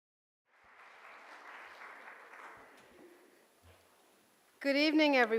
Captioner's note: audience clapping